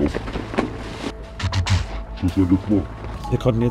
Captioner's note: he imitates the sound of gunshots